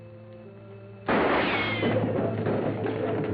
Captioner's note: gunshot